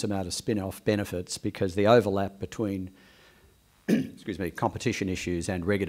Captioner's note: clears throat